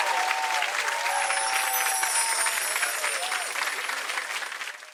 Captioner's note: audience applauding; bells chiming